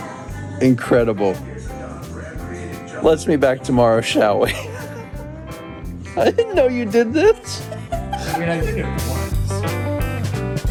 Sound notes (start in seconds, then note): 7.1 laughs